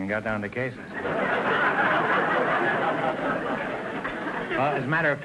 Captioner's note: audience laughter